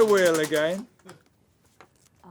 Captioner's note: ratcheting